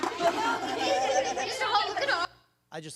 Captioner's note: children playing